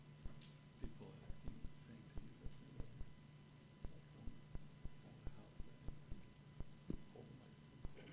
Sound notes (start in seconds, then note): 1.7 whispering